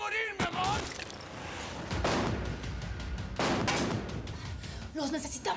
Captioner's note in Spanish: continúan los disparos